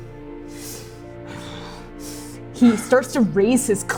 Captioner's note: furious breathing